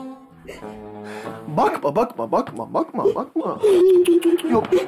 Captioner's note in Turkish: Ağlama sesi